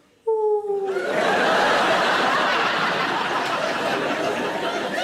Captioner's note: audience laughing